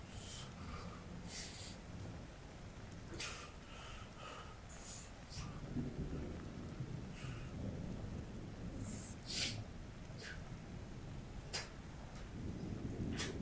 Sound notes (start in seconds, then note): 6.3 thunder rumbling